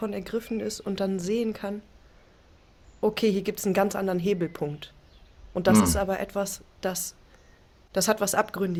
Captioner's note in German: räuspern